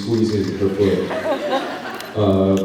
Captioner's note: laughs